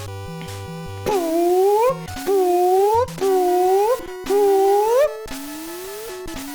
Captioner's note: imitates block noise